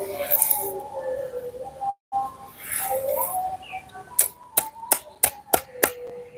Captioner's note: sound of glass being hit